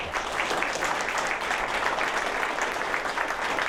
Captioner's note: applause